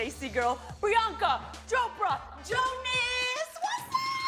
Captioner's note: none